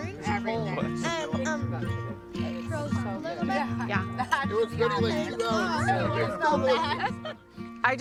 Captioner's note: people chattering